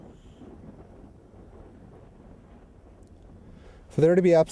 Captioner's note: air whooshing